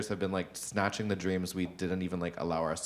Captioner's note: none